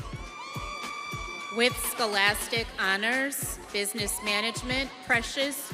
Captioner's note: students cheering